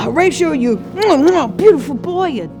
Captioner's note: mwah mwah